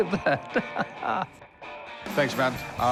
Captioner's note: laughs